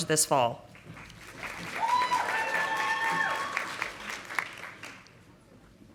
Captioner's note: audience applauding